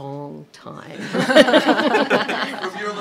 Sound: laughter

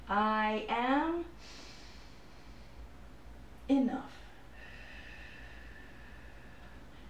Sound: breathe in

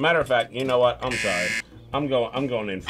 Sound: buzzer

